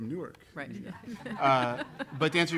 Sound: laughing

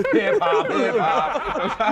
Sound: laughter

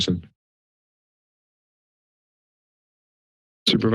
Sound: silence

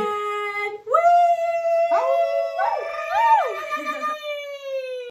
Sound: cheers

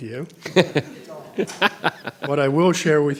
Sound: board members laugh

